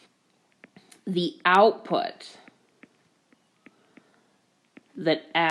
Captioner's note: keyboard Tapping